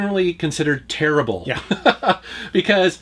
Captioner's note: laughs